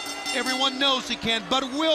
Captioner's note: bell ringing